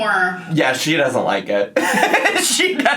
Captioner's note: laughs